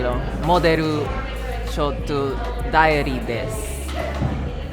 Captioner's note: speaking Portugese; speaking Japanese